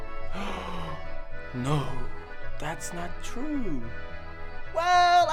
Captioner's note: gasps